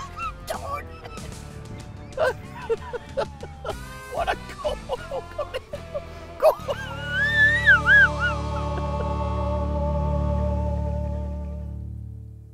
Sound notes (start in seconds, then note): 0.0 laughing; 0.0 weezing; 5.7 weezing